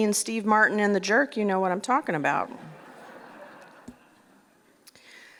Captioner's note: laughter